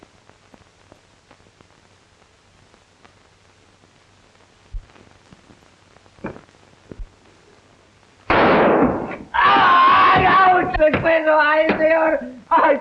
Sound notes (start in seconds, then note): 8.2 gunshot; 9.5 shouting; 10.5 speaking in Spanish